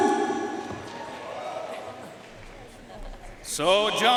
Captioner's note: audience cheering and applauding